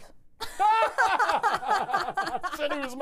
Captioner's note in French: Ils éclatent de rire